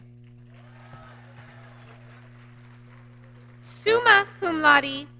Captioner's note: applause